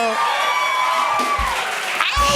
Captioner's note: cheers and applause